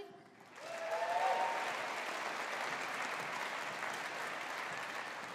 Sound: audience applauding

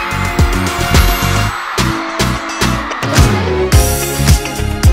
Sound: cheering echos in the venue

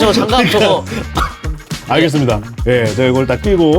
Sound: coughs

